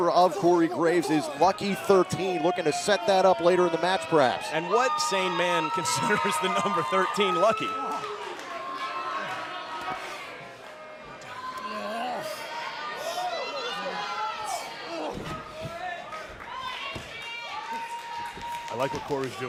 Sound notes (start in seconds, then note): 8.3 crowd chatter